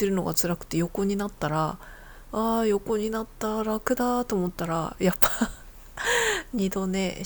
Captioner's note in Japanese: 笑い